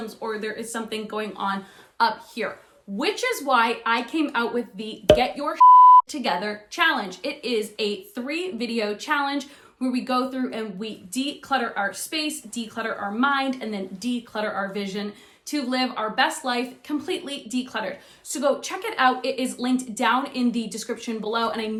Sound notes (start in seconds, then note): 5.5 beep